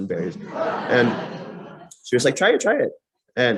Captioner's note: laughter